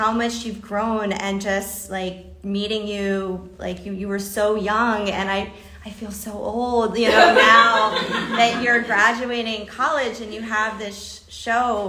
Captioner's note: laughter